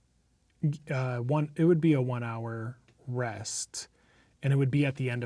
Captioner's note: stammers